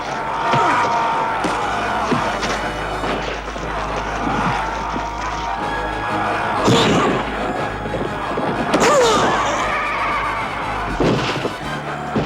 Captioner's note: Jawbone smashes bone, Philistines groaning, Bodies crash against ground